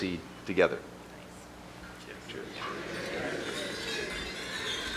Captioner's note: cheers